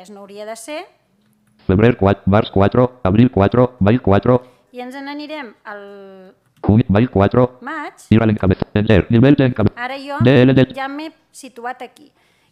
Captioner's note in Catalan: veu robòtica